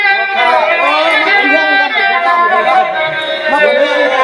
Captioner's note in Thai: ปรบมือ